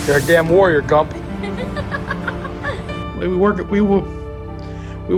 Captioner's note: laughing